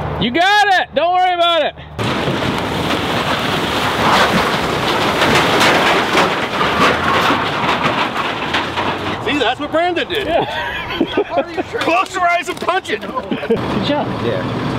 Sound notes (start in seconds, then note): 2.1 truck engine roaring; 10.1 laughs